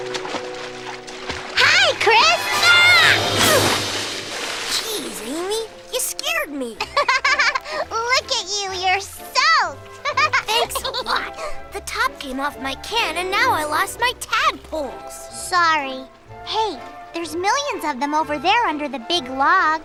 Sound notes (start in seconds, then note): 3.5 splash; 7.2 laughing